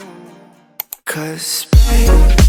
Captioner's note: click sound